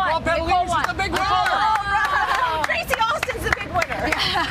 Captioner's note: cheers